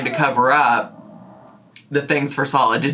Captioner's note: Judy growls